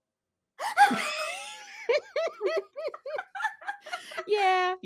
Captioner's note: both laughing